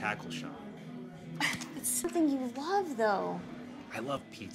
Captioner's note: sighs